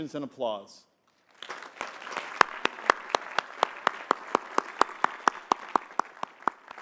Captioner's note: applause